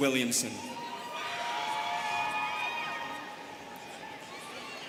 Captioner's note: students cheering